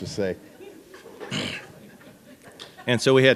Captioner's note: laughter